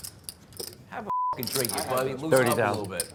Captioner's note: beep